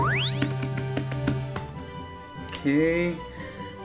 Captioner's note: digital whining